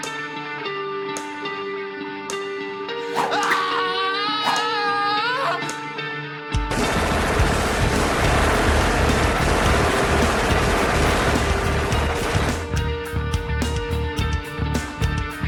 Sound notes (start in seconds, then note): 3.1 man screaming; 6.7 shots firing